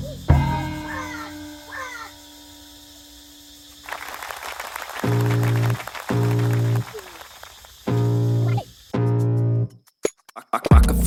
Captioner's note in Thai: ปรบมือ